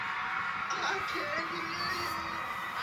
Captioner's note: autotuned voice